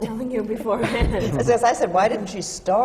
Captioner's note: laughs